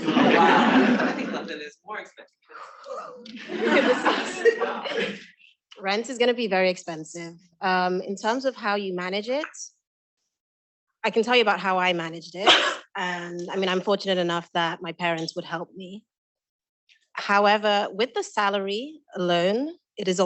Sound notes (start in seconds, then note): 0.0 students laughing; 3.0 students laughing